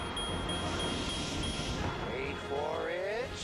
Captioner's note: beeping